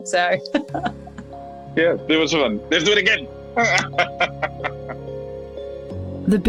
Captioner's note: laughed